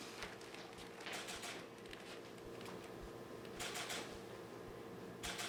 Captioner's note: camera clicking